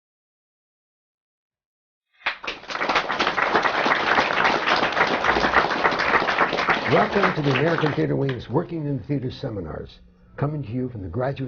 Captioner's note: applause